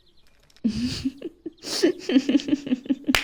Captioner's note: KYOKO giggles